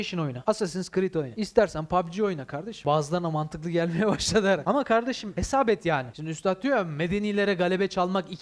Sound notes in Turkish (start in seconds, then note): 4.3 Gülüyor